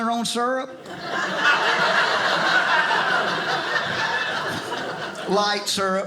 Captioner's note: audience laughing